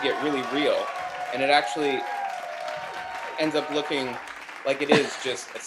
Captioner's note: applause